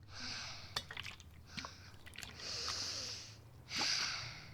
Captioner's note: water sloshing